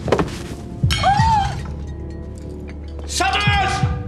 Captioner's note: Vera gasps